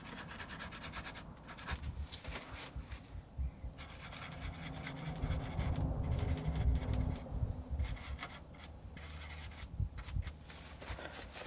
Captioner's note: scratching sounds